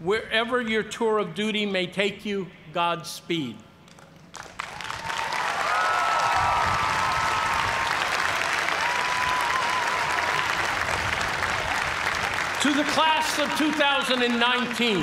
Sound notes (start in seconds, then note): 4.2 cheers and applause